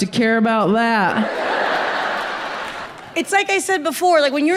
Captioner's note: audience laughs